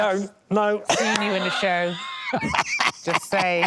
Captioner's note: laughs